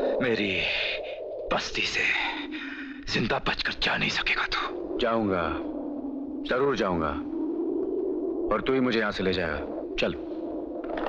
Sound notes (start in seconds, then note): none